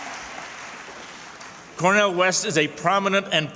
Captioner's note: cheers and applause